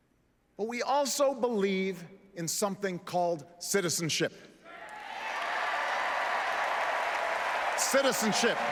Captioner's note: applause